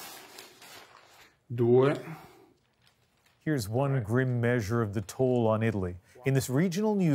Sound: speaking Foreign Language

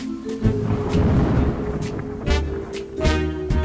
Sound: thunder crashing; mysterious music

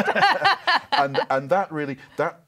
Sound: laughs

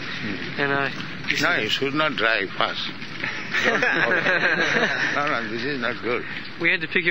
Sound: devotees laugh

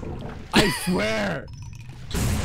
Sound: laughter

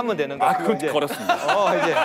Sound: haha

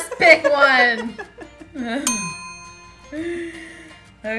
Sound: laughing

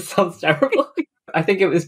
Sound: laughing; laughs

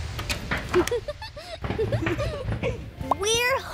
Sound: giggling

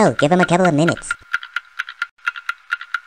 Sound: ticking continues

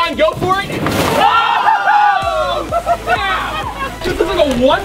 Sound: screaming

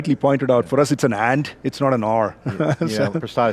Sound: laughs

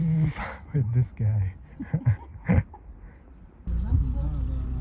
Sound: laughter

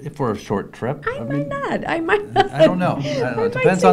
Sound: laughs

